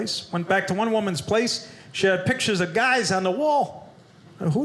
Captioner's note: none